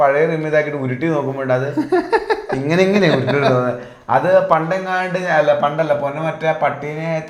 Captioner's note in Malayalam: പൊട്ടിച്ചിരി